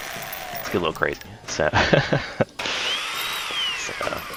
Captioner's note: laughs